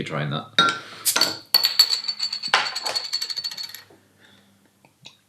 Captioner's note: bursting of air